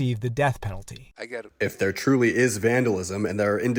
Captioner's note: through translator